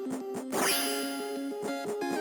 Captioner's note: schwing!